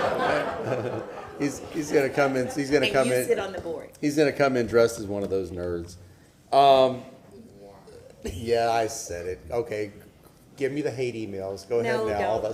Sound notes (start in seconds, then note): 2.5 laughter